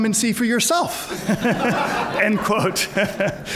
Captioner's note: laughter